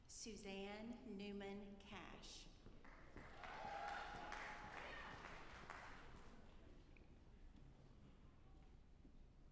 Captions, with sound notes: Susanne Newman Cash. (audience applauding)